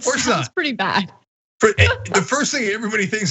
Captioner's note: laugh